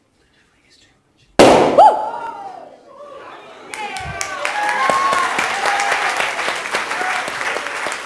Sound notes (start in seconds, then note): 1.4 loud Bang; 3.1 audience cheers and applauds